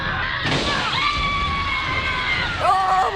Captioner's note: man 3: shrill screaming